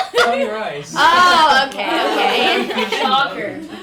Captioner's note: group laughing